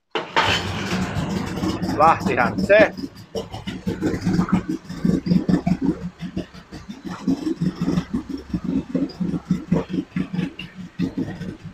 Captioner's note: laughs